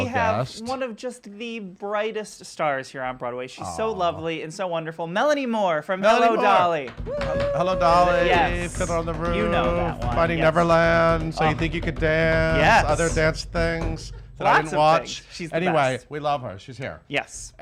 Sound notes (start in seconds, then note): 7.2 cheering and drum roll